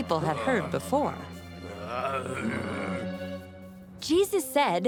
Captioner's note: grumbling